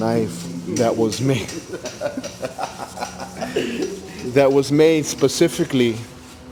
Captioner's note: laughing